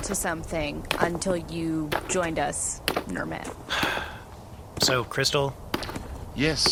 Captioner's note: sighs